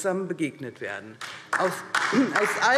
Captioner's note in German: Beifall DIE LINKE